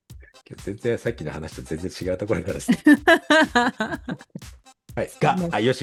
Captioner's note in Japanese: 笑い